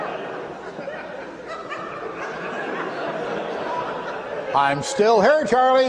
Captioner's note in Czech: smích